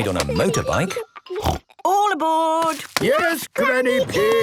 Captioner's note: snort